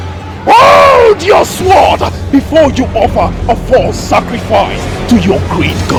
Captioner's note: screaming